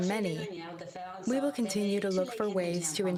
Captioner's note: speaking French